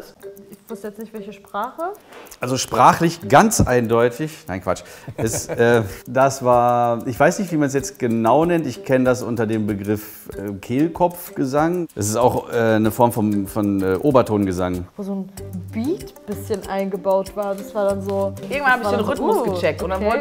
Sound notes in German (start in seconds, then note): 5.0 Lachen